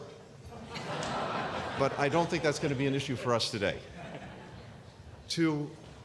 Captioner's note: laughter